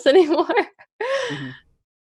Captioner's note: laughs